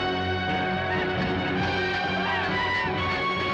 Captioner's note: villains panicking